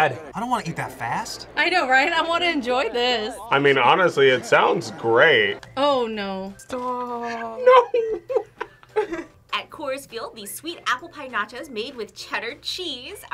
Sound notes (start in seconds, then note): 7.2 laughs